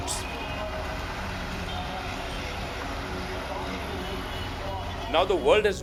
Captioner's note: street noises